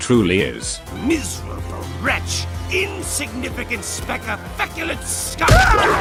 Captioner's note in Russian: ворчание деда